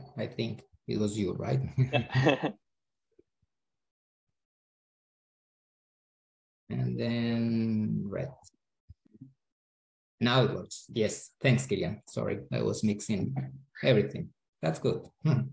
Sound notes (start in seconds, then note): 1.8 both giggling